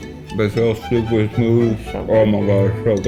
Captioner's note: with mouth full